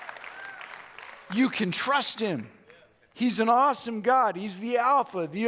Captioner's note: audience Cheers